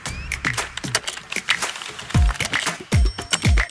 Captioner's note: popping; keyboard clicking; bell tinging